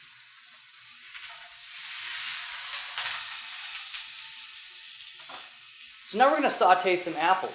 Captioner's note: meat sizzling